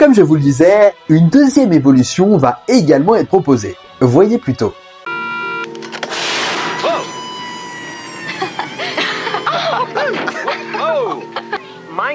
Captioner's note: laughs